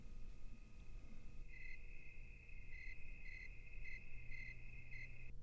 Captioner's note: crickets chirping